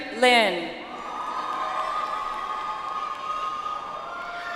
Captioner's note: audience applauds